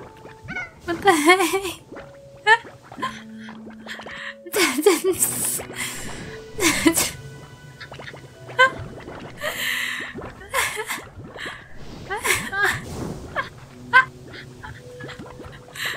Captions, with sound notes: (laughing) What the heck! (laughter)